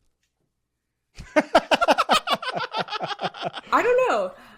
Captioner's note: all laughing